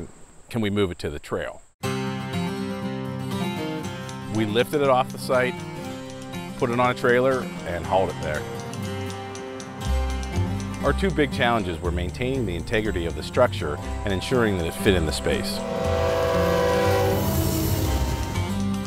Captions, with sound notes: can we move it to the trail? We lifted it off the site, put it on a trailer, and hauled it there. Our two big challenges were maintaining the integrity of the structure and ensuring that it would fit in the space. (train horn)